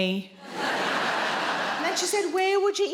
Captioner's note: audience laughing